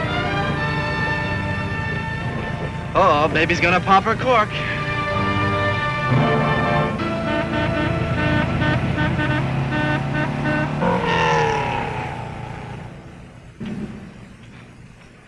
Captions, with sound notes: - Oh-oh, baby's gonna pop her cork. (car horn honking) (car engine revving)